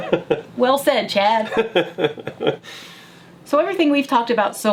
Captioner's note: laughing